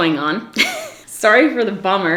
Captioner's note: laughs